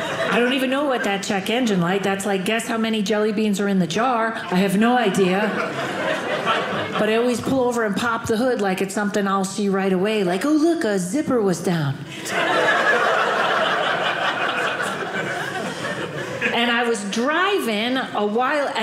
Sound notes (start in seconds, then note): 12.1 audience laughing